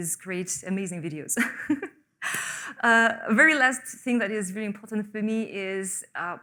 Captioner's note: laughs